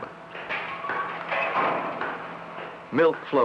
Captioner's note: banging